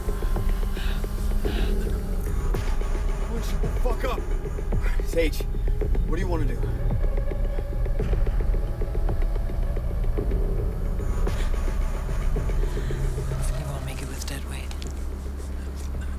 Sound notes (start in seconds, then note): 0.0 heavy breathing; 7.8 dramatic music; 7.8 engine rumbling